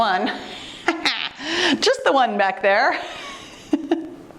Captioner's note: giggles